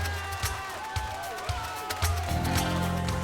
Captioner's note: cheers and applause